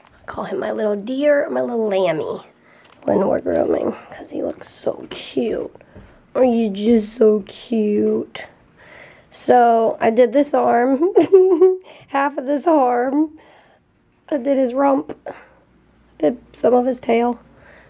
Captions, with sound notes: I call him my little deer, my little lambie when we're grooming 'cause he looks so cute Are you just so cute? So I did this arm (laughs) half of this arm I did his rump did some of his tail